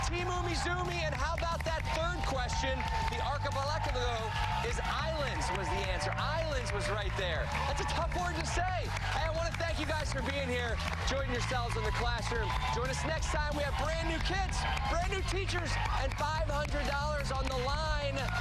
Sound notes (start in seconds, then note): 1.4 cheers and applause